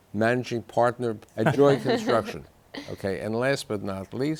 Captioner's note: guests laughing